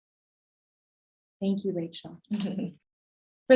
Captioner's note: giggling